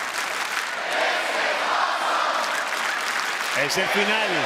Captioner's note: crowd clapping; clapping; commentator speaking Spanish